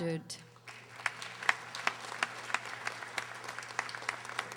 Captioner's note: audience applauding